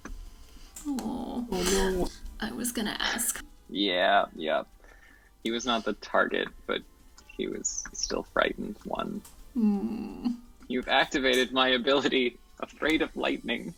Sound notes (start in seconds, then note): 9.9 sad noise